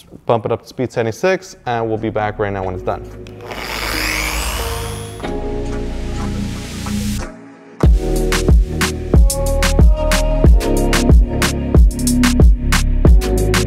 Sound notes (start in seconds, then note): 3.3 polisher whirring; 7.8 bass-heavy music